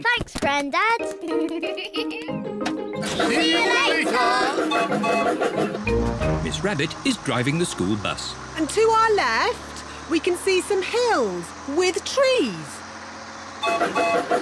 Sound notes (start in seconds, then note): 1.2 laughs; 4.6 toots whistle